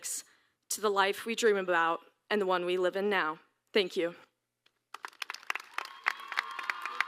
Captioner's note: applause